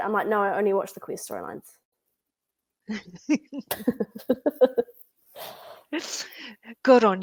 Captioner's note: laughter